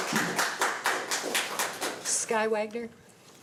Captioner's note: applause